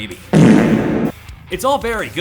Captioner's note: fart